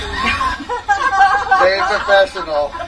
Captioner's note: group laughing